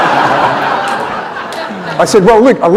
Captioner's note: laughter